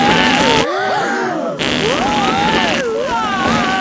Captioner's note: both screaming; crowd gasps; screaming